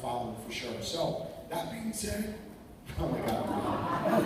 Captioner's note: voice goes dim; laughter